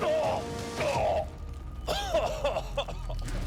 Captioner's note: groaning; coughing